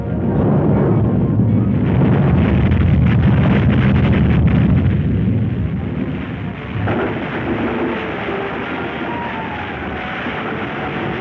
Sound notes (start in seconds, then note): 0.3 loud rumbling; 5.8 crashing